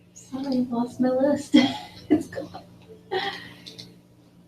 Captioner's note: laugh